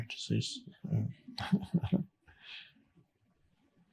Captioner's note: chuckling